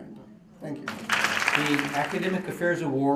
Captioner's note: applause